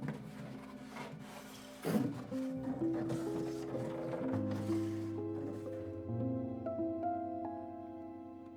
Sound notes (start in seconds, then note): 0.0 box clattering